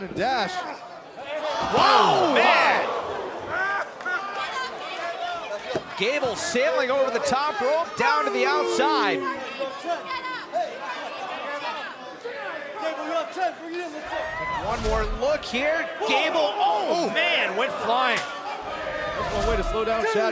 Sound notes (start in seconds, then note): 3.8 crowd chatter; 10.8 crowd chatter